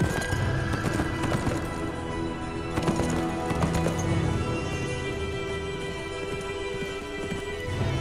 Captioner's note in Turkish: Nal ve kişneme sesleri; Nal sesleri